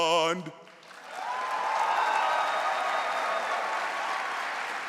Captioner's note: audience cheering